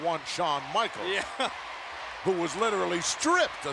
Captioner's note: laughs